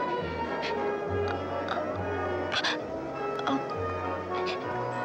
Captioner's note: Elissa gasping